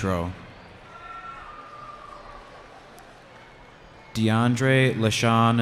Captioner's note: cheering